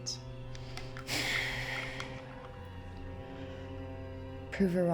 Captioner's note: Claire sighs